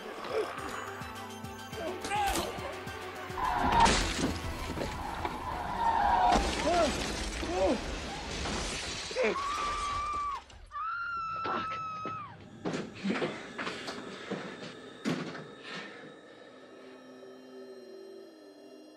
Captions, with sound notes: (snarling) (tires squeal) (thudding) (crashing) Oh, shit! (screaming) Fuck! (suspenseful music)